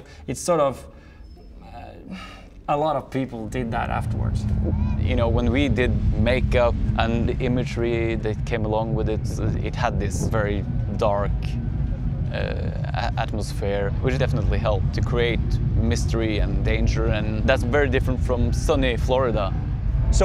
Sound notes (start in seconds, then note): 2.0 sigh